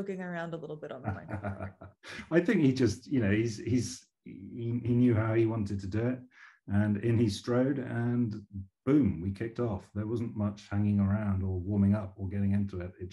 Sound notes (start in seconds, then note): 1.0 laughing